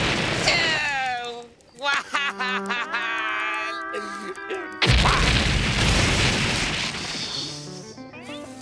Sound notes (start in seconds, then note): 4.8 explosion